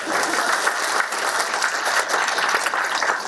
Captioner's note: applause